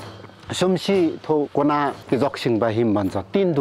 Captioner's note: limbu dialect